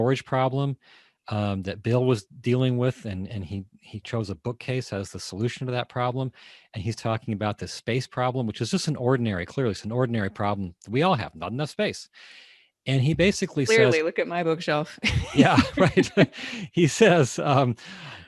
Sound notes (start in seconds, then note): 15.0 laughing